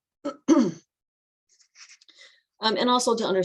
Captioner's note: clears throat